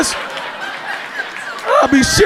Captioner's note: audience cheering